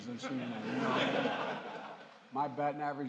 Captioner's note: laughter